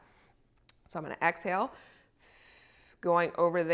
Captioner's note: exhales